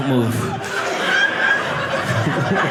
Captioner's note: audience laughing